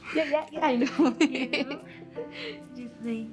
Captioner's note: laughter